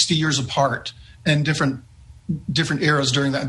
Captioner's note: chuckling